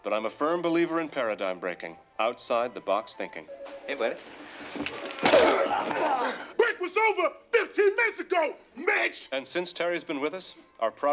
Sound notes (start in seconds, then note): 5.2 tackling and grunting